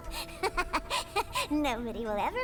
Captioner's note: laughs